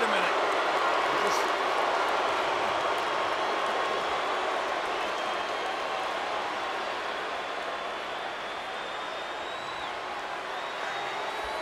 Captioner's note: applause